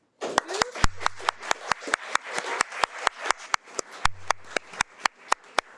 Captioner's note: audience applauding